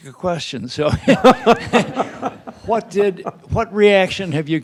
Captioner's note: Jake laughing